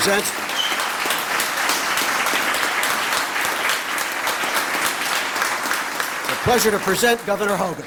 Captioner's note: applause